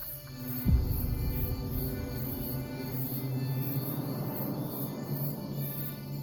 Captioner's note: crickets chirping; ominous music